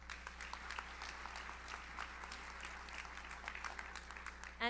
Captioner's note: audience applauds